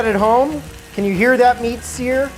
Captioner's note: meat sizzling